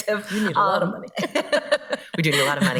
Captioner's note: laughs